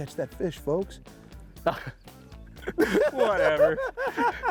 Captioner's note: both laughing